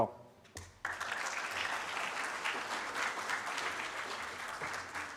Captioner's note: audience claps